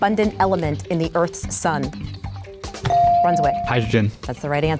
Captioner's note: bell dings